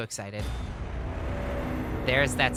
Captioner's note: bwooooom!